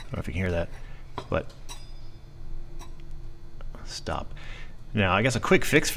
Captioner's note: scrapes